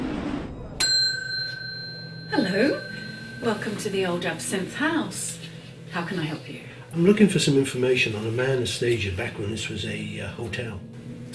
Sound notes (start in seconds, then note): 0.0 horn honking; 0.0 wheels screeching; 0.8 bell dinging